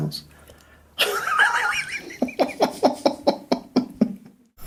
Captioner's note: laughs